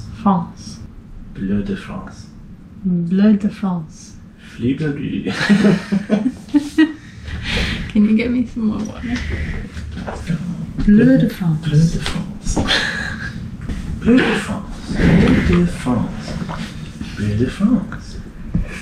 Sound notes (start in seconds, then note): 5.3 laughter; 11.7 in varying intonations